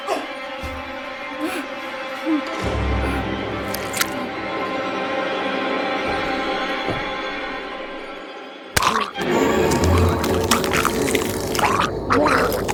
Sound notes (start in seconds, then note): 0.0 Tasha grunting; 8.8 Tasha gagging